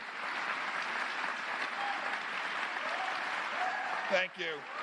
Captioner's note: applause